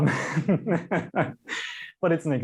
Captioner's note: laughs